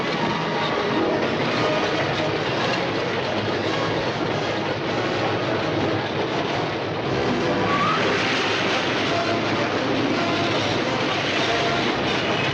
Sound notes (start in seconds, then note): 7.1 screeching